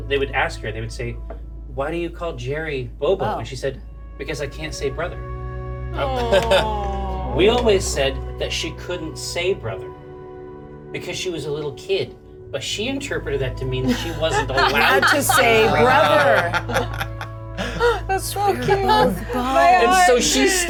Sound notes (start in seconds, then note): 16.8 Bobby laughs; 16.8 Evelyn laughs